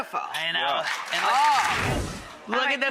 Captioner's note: audience applauds